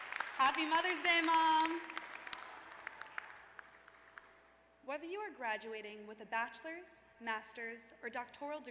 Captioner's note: cheers and applause